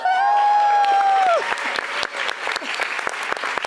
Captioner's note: audience applauds